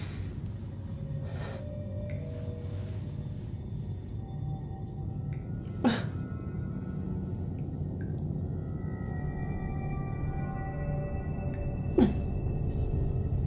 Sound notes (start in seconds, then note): 5.8 woman whimpers